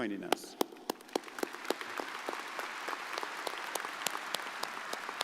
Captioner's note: crowd applauding